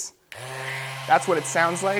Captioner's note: machine buzzing